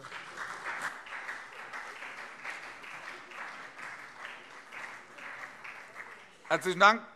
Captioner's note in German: Beifall SPD und CDU